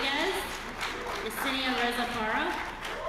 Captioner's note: applause